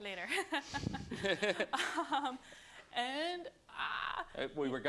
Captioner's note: laughter